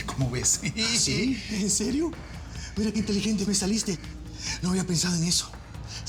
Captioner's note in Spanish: risas